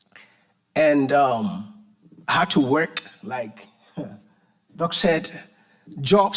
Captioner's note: chuckles